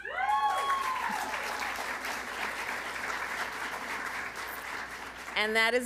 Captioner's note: applause